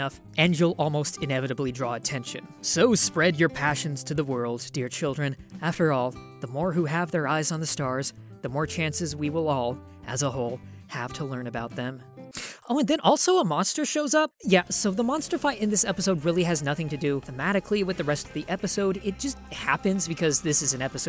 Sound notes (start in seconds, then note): 12.3 inhales